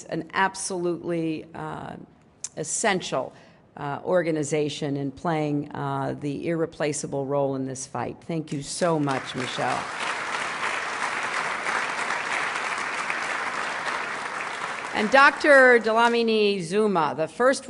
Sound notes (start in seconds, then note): 15.3 applause